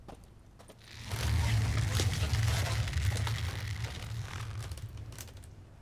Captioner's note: stretching noise